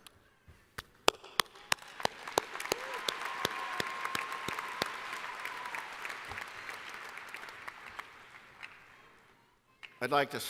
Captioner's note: applause